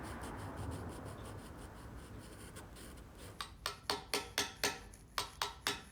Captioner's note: tapping chisels